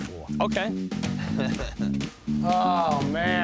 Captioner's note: chuckles